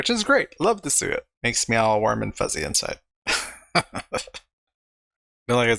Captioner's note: laughing